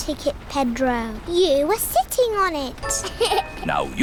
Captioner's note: laughs